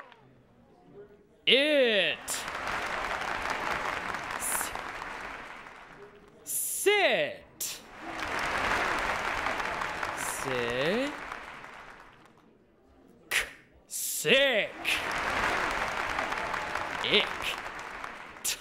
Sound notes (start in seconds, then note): 2.7 audience applauds each time new word is formed